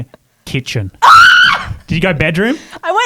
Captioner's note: screams